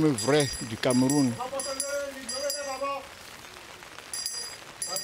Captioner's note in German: Glocken läuten